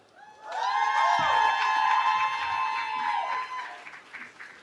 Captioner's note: cheering